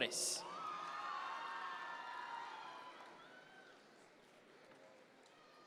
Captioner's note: audience members cheer